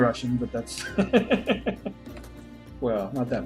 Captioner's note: laughs